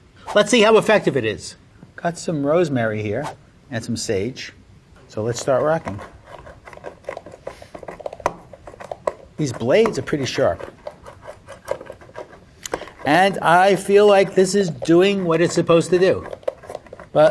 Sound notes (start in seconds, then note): 7.5 herbs crunch